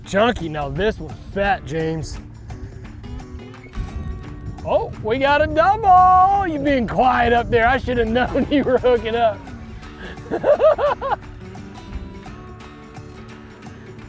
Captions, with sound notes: Chunky. Now, this one's fat, James. Oh, we got a double. You're being quiet up there. I should have known you were hooking up. (laughing)